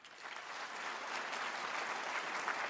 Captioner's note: applause